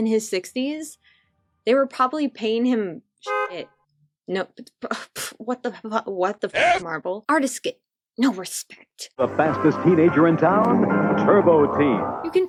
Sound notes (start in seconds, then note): 4.1 stuttters